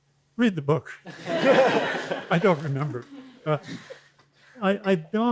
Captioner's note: laughter